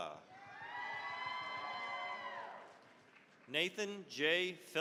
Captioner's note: cheering, applause